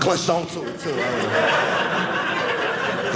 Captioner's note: audience laughing